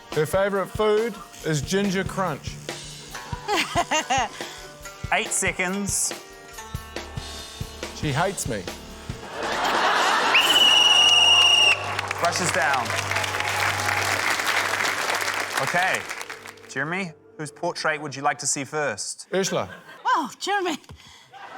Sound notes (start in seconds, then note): 3.4 laughs; 9.2 laughter; 10.3 blows whistle; 13.5 applause